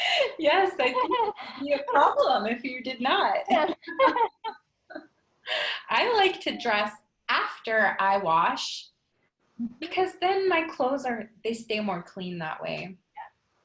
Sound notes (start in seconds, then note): 0.2 laughs; 3.5 both laughing